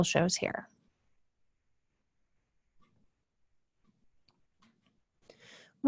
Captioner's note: silence